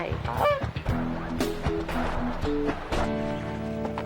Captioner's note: goose quacks